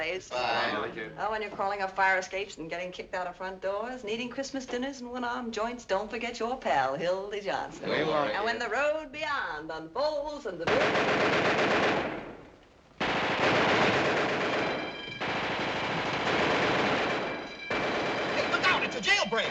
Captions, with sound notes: When you're crawling up fire escapes and getting kicked out of front doors and eating Christmas dinners in one-arm joints, don't forget your pal, Hildy Johnson. -We won't. -When the road beyond unfolds ̶ (gunfire) (alarm ringing) -(gunfire continues) -Look out! It's a jailbreak!